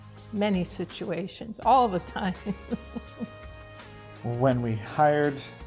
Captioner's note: chuckles